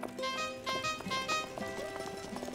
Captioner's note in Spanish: Suena bocina